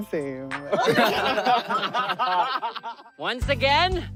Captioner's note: laughter